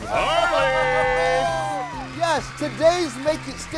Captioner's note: audience cheering